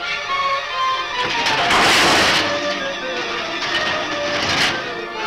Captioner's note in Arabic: أصوات قعقعة الأشياء